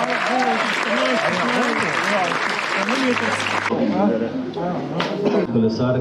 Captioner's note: applause